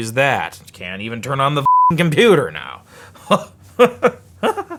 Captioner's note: beeping; gradual, psychotic laughing